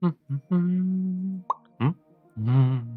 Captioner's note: humming